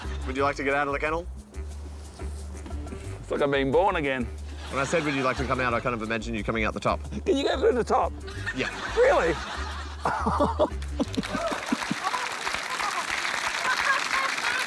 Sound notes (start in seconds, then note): 10.0 laughs; 11.2 laughter, applause